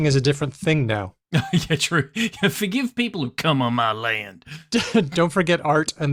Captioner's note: chuckles